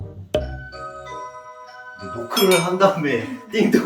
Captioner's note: Doorbell~